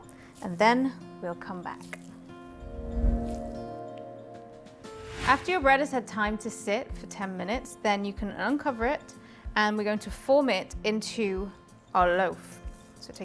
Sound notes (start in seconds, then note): 2.8 logo whooshing